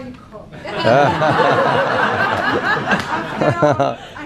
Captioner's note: laughing